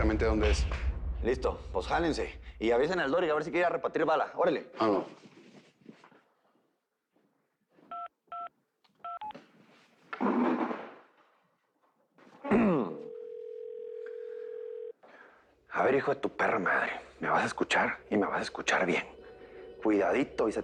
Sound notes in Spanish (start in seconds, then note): 9.0 Sonido al marcar